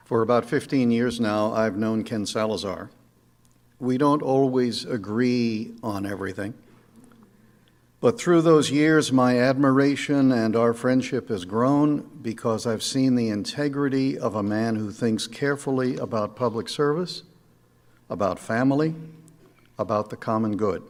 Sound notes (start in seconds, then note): none